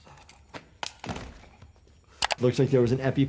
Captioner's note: EpiPen taps